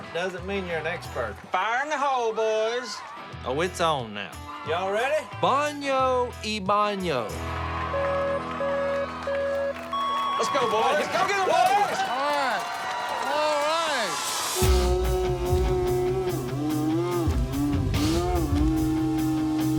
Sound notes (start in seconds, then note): 7.9 beeping; 14.0 slow motion yelling